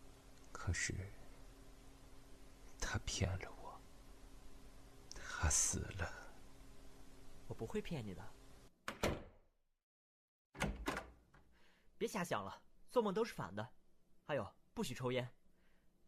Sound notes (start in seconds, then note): 8.8 door close; 10.5 door open